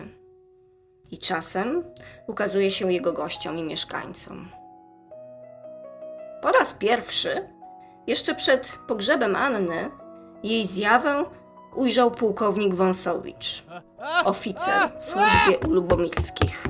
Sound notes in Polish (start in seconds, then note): 13.6 krzyk mężczyzny